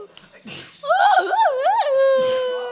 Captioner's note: sneeze; sneeze